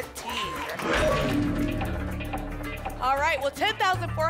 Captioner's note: lock sound